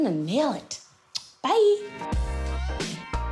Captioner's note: kisses